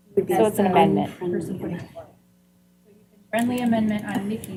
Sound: indistinct chatter

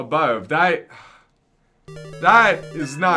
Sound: sigh

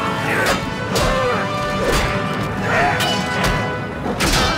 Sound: metal clangs

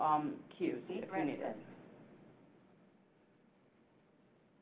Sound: electronic Voice

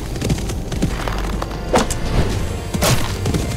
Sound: arrow flying

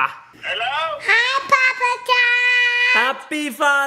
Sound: none

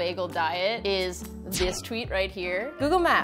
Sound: electric slicing

